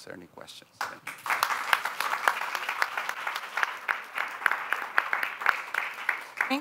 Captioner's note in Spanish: aplausos